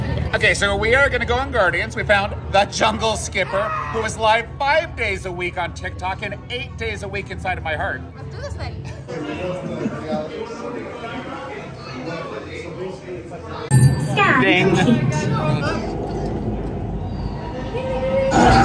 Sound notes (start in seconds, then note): 13.7 sound effects; 16.3 suspenseful music